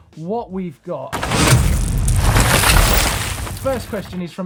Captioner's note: loudly bangs